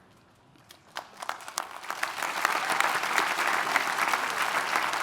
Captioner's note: attendees applauding